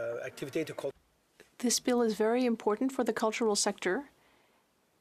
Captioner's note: speaking French